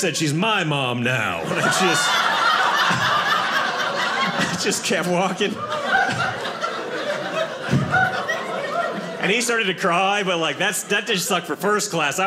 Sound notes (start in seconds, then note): 2.3 audience laughing; 6.4 audience laughing